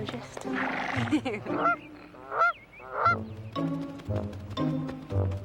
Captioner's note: Dory laughs; goose quacks